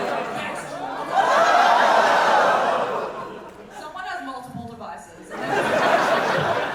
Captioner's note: audience reaction